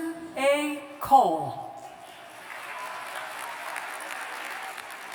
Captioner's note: applause